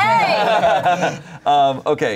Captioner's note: everyone laughs